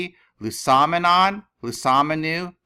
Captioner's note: speaking greek